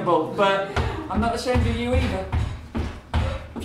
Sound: footsteps

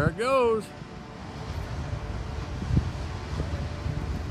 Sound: gushing water sound

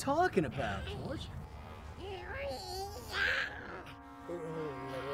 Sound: animal noises

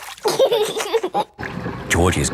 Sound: giggling

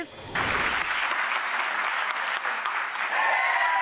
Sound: applause

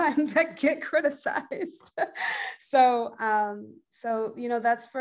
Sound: laughs

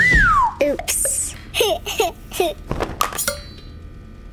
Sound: laughing

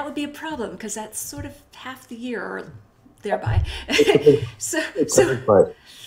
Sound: laughs

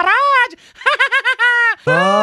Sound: laughs

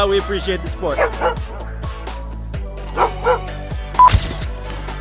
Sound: dog barking; camera flash

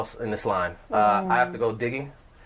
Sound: sounds of agreement

